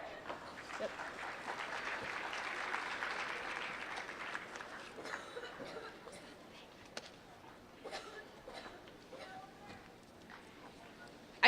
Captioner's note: applause